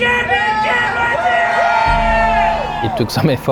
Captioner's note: crowd cheering